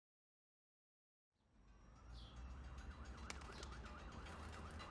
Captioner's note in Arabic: صافرات الإنذار